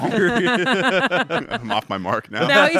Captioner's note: everyone laughs; laughs